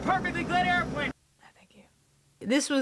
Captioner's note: whispers